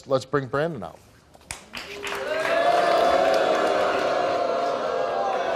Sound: audience applauds and jeers

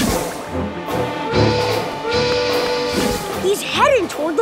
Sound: whistle blowing

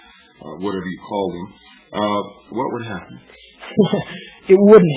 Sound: laughs

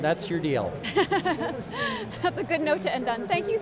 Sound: laughs

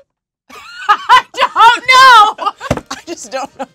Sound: laughs

